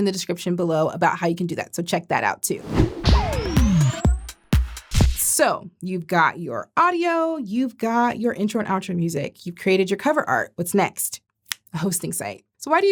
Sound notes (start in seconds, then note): 2.6 transition whooshing; 2.6 upbeat music